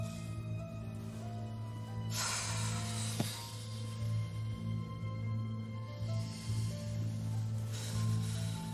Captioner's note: sighing